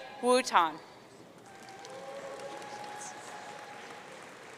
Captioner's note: audience cheering